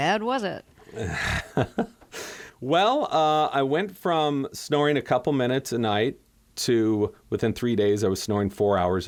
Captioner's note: laughter